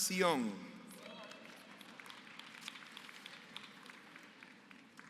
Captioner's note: applause